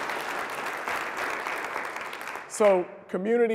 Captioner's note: applause